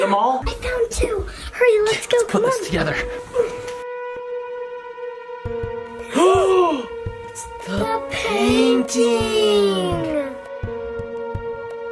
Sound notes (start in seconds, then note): 3.7 dramatic music; 6.0 gasp loudly